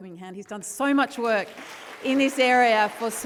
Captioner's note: audience applauding